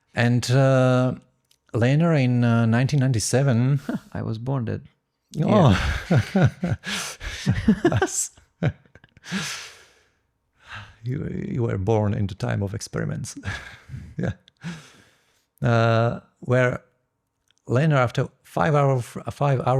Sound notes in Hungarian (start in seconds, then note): 7.2 nevetés; 10.6 sóhaj